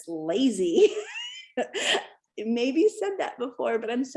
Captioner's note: laughter